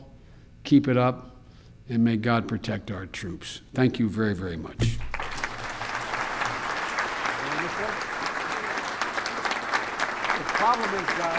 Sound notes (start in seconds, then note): 4.0 applause